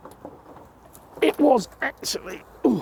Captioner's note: grunt